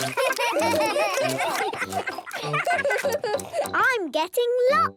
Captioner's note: giggling, chewing